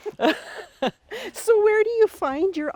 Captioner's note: both laughing